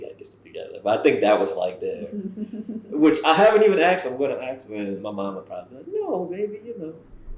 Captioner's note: laughter